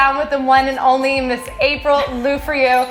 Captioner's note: laughs